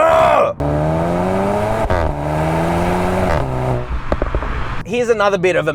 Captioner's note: car engine accelerating